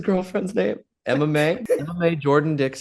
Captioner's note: Hana laughs